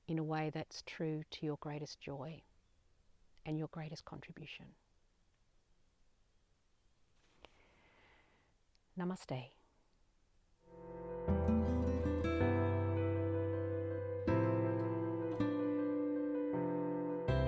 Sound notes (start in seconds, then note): 7.5 sigh; 10.6 calming instrumental music